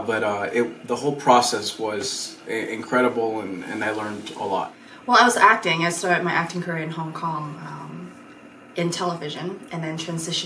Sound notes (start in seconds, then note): none